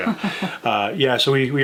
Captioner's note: laughing